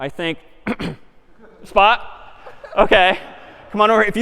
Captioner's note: گلو را پاک می کند